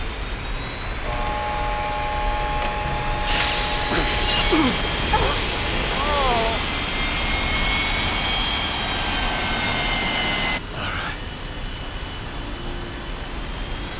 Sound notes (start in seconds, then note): 1.0 alarm Sounds; 3.8 grunting